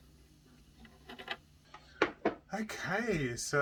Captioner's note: clattering